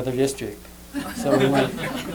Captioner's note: laughter